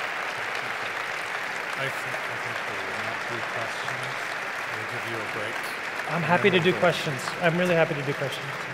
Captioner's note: applause